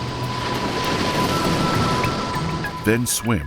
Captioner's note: waves crashing